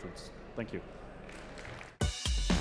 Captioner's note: applause